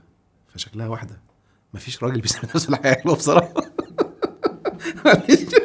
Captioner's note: laughs!